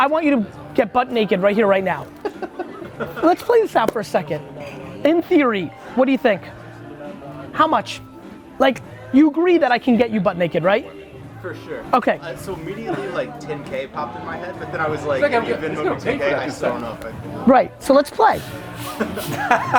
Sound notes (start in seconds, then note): 4.5 laughs